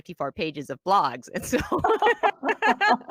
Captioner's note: laughs